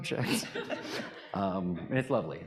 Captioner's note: audience laughing